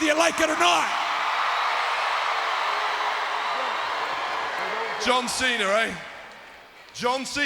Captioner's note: applause